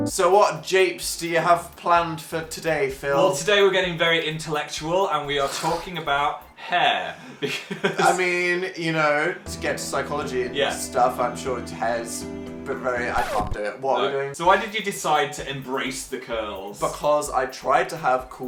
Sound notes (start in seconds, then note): 6.6 laughs